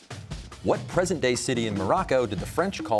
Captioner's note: none